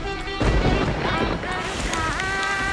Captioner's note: thunderclap